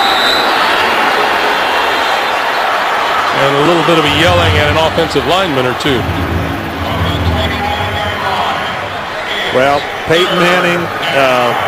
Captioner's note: crowd noise